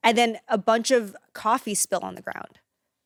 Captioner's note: none